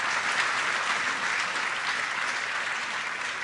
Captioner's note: applause